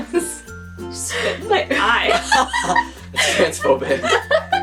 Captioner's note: laughing